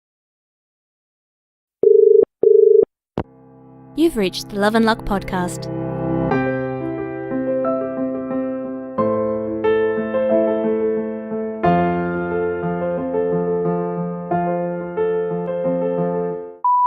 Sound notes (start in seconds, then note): 1.8 dial tone